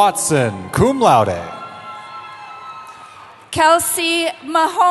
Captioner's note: cheering